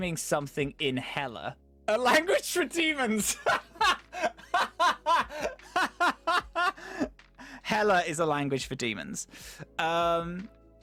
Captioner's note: laughing begins once more